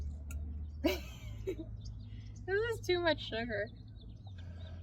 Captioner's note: laugh